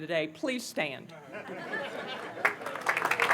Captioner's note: laughter; applause